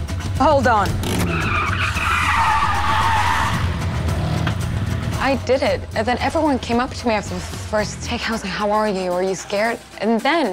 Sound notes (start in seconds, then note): 0.9 tires screeching